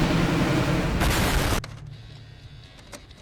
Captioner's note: explosion